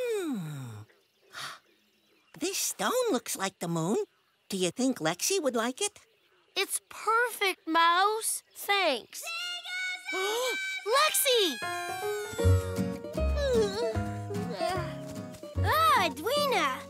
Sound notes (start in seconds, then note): 8.8 gasps; 11.9 yawning